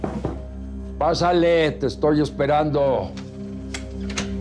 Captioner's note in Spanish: Sonido al cerrar la puerta